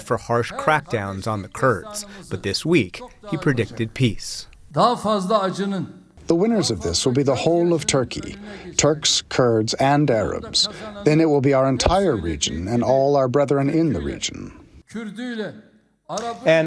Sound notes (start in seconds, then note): 5.9 through translator